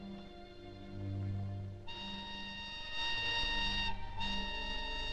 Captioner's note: whistle tooting